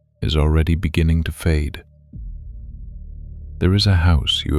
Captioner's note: soft voice